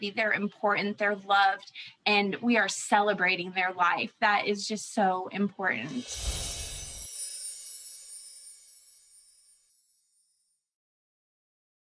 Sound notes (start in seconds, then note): 6.0 windchimes ring